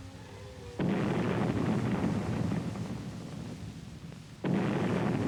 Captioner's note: explosions